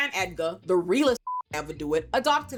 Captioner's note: beep